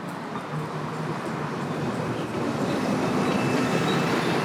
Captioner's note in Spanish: Sonido ambiente urbano